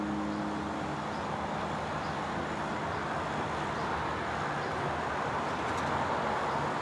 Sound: urban noises

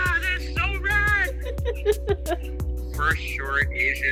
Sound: laughs

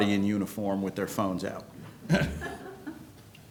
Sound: laughter

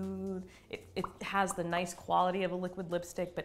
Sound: lip popping

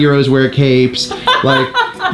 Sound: laughs

